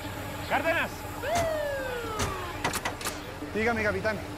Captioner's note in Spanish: Apagan las sirenas